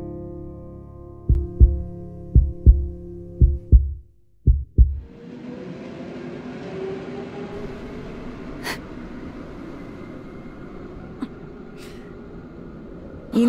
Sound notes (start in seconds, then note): 1.2 heart beats; 5.1 wind